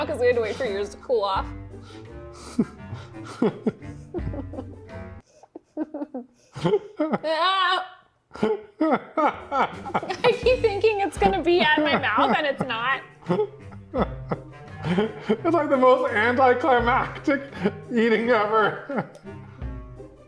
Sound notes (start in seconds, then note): 2.8 laughing